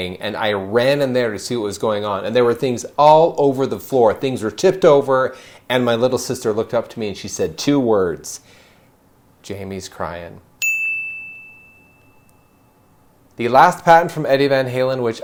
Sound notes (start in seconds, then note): 10.6 bell rings